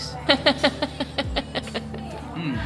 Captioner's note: laughing